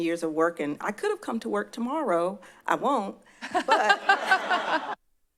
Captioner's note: laugh